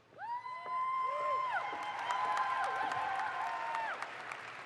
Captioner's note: audience applauds